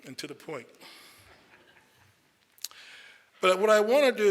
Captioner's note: audience chuckles